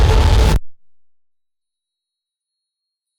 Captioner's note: silence